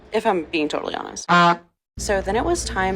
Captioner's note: clown honk noise